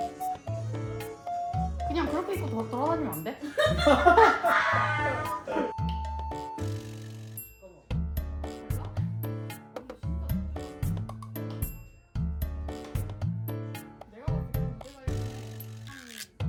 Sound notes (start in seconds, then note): 2.4 mocking